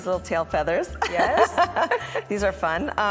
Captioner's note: laughs